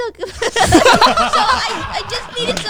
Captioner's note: everyone laughing